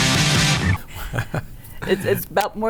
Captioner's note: laughs